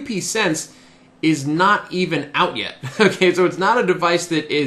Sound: chuckles

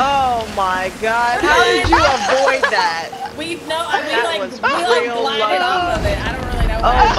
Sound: laugh

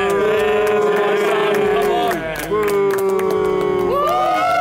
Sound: all cheering

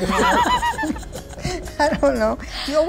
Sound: laughter

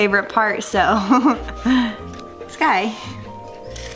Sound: chuckles

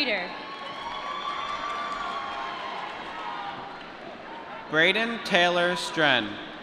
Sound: applause

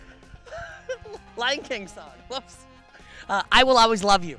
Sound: laughs

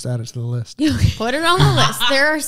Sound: laughing

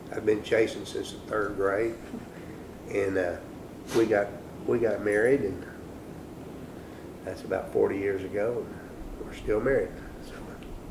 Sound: laughter

